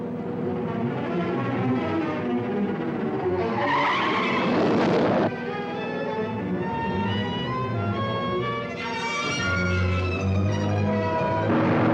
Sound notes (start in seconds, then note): 0.0 suspenseful orchestral music; 3.3 tires screeching